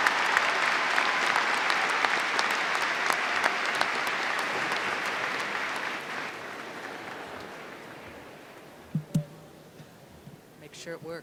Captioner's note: applause